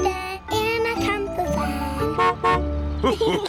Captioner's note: horn honks; laughter